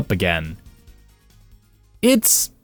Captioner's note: beat